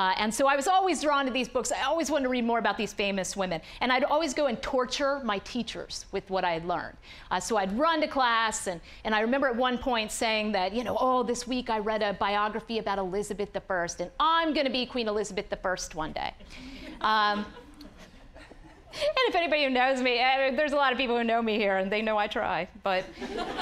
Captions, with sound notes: AND SO, I WAS ALWAYS DRAWN TO THESE BOOKS, I ALWAYS WANTED TO READ MORE ABOUT THESE FAMOUS WOMEN, AND I’D ALWAYS GO AND TORTURE MY TEACHERS WITH WHAT I’D LEARNED. SO, I’D RUN TO CLASS, AND I REMEMBER AT ONE POINT SAYING THAT, "OH, THIS WEEK I READ A BIOGRAPHY ABOUT ELIZABETH THE FIRST, "AND I’M GONNA BE QUEEN ELIZABETH THE FIRST ONE DAY!" (audience laughing) AND IF ANYONE WHO KNOWS ME-- THERE’S A LOT OF PEOPLE WHO KNOW ME HERE, AND THEY KNOW I TRY, BUT--